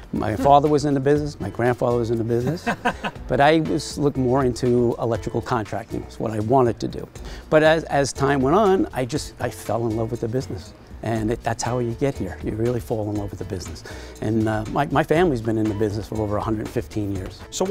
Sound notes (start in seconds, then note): 2.4 laughing